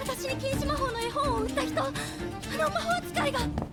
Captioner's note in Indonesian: tertawa